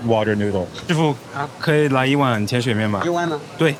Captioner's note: speaking in foreign language; chef speaking in foreign language